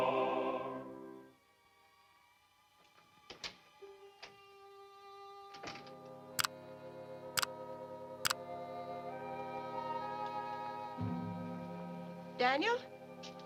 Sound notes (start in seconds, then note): 1.4 gentle music; 1.4 latch clicking